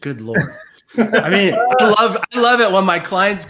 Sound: laughs

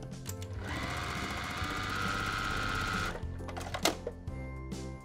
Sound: sewing machine whirring; festive music

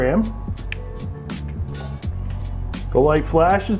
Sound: clicks remote

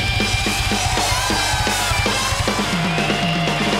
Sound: cheering

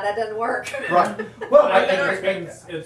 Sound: audience laughing

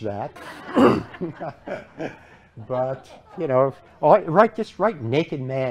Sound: laughter

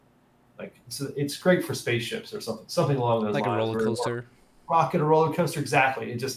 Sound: chuckles

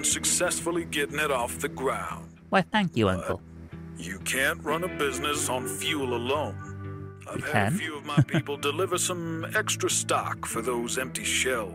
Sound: laughs

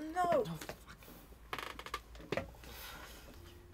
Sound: creaking

